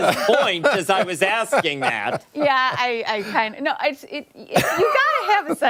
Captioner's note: laughter